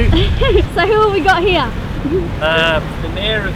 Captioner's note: giggles